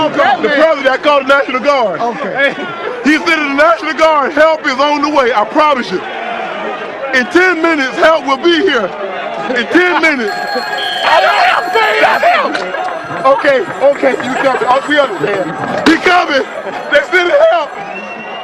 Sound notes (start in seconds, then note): 9.5 telephone ringing